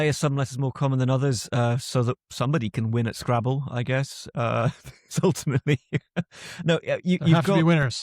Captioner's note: laughs